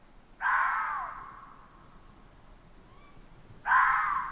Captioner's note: animals screeching